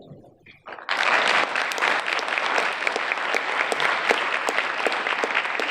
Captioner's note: audience applauding